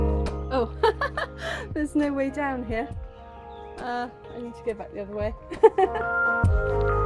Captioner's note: laughing